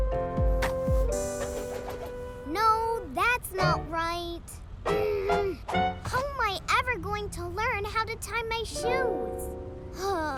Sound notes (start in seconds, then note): 4.8 groans; 10.1 sighs